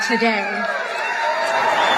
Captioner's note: applause